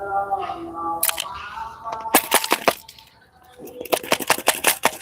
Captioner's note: glass flakes shaken